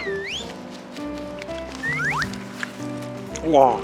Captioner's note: nom nom